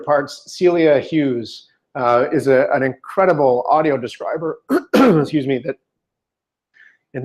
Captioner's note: clears throat